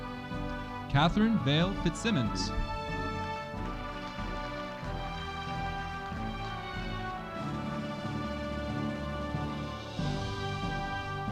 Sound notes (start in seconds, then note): 3.8 audience applauding